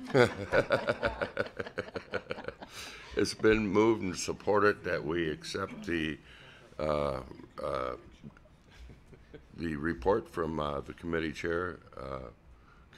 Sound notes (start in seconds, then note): 6.0 laughter